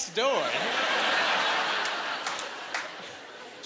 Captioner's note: laughing